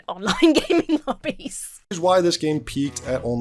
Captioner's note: laughs